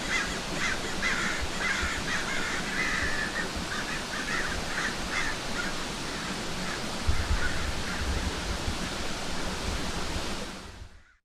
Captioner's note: crow noises